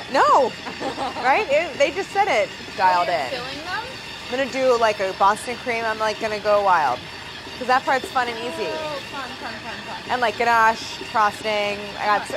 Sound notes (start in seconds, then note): 0.7 laughing